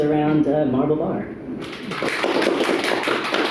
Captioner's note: applause